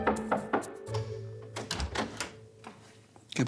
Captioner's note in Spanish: Toques en la puerta